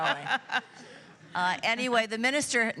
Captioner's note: laughing